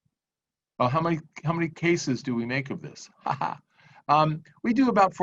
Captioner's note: laughs